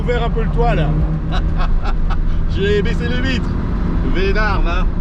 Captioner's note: laughter